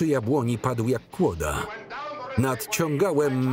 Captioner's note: breathing heavily